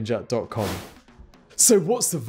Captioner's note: wind whooshing